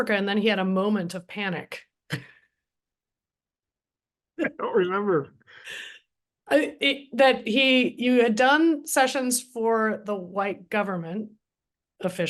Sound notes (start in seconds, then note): 2.1 laughs